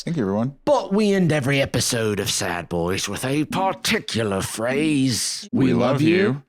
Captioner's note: British accent